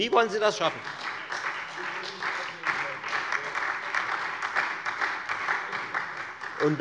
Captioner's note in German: Beifall Freie Demokraten und SPD